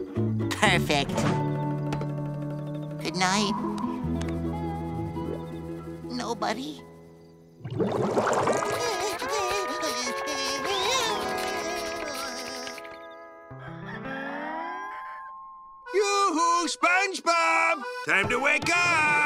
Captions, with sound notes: Perfect. Good night... nobody. [shivering] [clucking] Yoo-hoo, SpongeBob! Time to wake up!